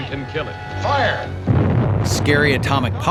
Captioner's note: bomb exploding